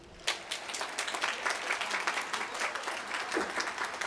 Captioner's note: applause